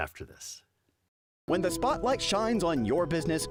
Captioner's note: voiceover